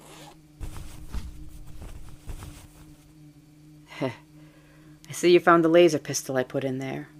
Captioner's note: zip, rummaging